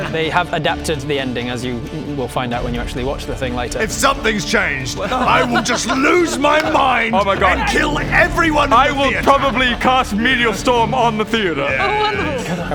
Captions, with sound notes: They have adapted the ending as you will find out when you actually watch the thing later If something's changed - I will just lose my mind - *scared chuckle* oh my god and kill everyone in the theatre I will probably cast meteor storm on the theatre - yeah yeah - oh wonderful